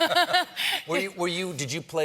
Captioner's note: laughter